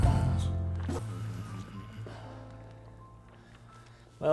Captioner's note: Dom coughs and gurgles